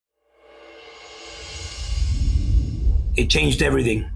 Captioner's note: air whooshing